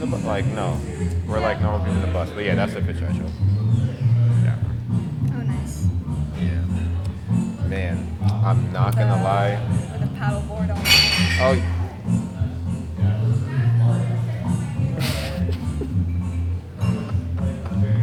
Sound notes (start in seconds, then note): 10.8 glass clanking